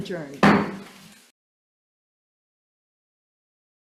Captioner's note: gavel thudding